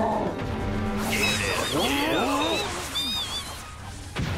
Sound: Pokémon chittering

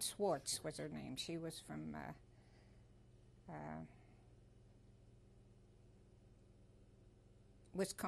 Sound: pauses for 6 seconds

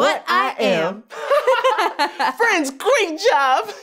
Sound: giggles

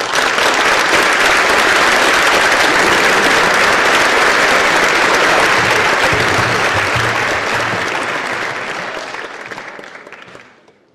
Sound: applause

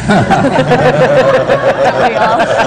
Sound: laughter

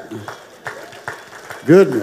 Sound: audience applauding

